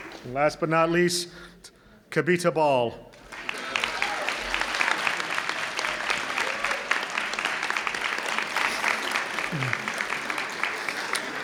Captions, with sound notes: Last but not least, Kabita Ball. (audience clapping)